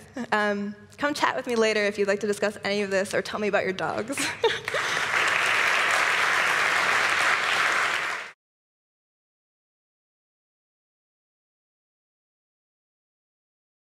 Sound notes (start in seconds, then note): 4.6 applause